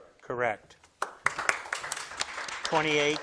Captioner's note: crowd claps